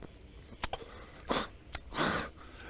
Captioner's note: snort